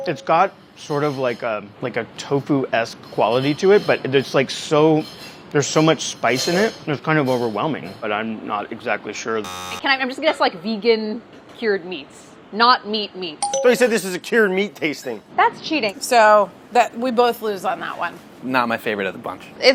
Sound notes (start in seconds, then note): 9.4 buzzing; 13.4 dinging